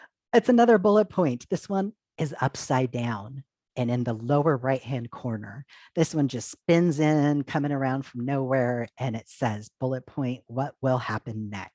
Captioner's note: gasp